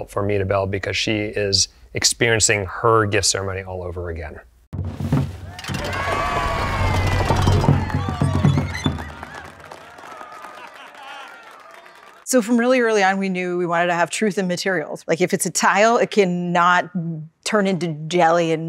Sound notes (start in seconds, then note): 4.9 cloth curtains rustle; 5.4 crowd cheers; 6.0 musical tones of tiles flipping; 7.7 crowd applauds; 8.2 lights move squeakily